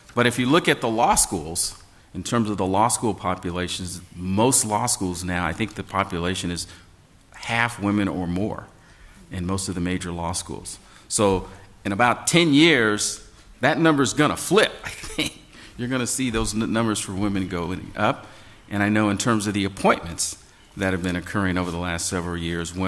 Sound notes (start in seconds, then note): 14.8 laughs